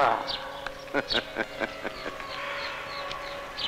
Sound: laughs

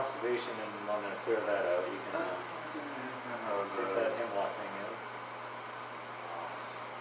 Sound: chatter

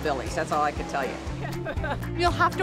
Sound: laughing

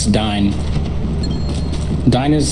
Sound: soft dinging

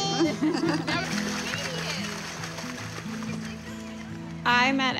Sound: splashing water

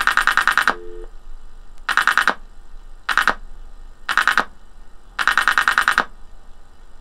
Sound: dialling noises

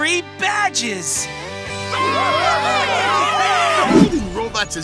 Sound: cheering

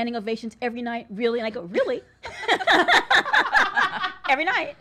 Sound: all laugh

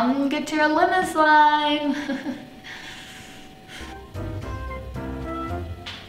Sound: laughs nervously

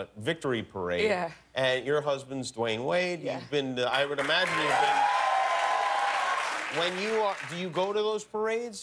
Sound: cheers and applause

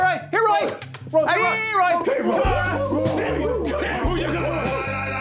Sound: coaches calling and howling at Roy

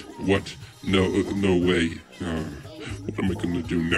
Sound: sighs

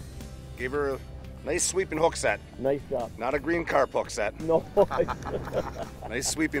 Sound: laughing

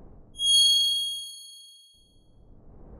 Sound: ding

